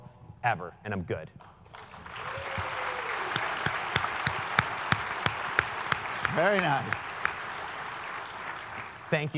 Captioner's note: applause